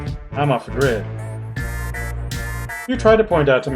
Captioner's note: none